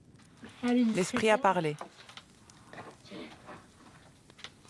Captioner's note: foreign spoken audio